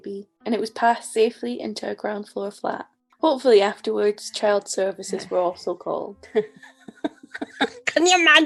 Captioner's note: laughs